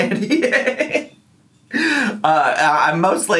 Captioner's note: laughing